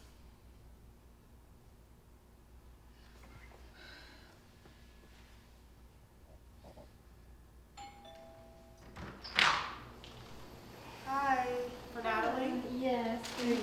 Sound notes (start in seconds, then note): 3.8 Natalie sighing; 7.8 doorbell ringing